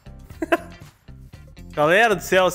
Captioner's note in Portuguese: Risos